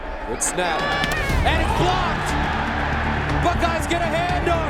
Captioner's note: crowd cheering